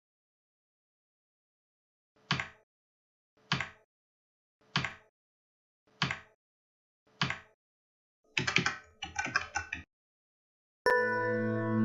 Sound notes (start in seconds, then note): 1.8 keyboard clicks